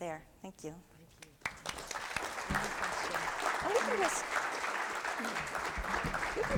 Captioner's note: applause and Background Talking